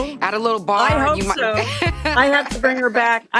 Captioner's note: laughs